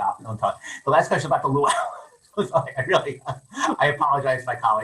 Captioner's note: laughs